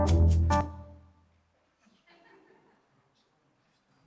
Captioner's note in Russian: смех в зале